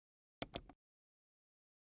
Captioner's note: keyboard taps; mouse clicks